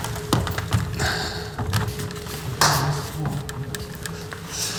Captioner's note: lumber creaking